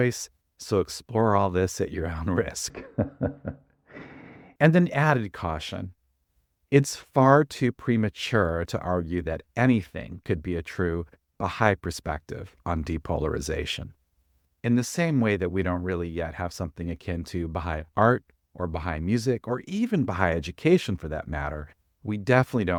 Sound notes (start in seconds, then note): 2.6 laughs